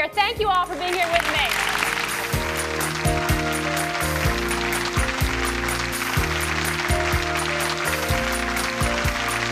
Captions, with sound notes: Thank you all for being here with me. (audience applauding) (soft music)